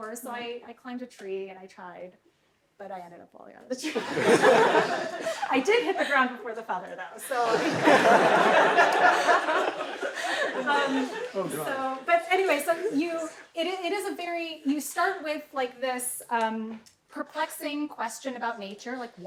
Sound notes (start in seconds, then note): 3.8 laughter; 7.2 laughter